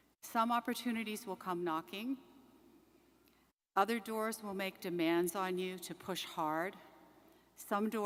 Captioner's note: none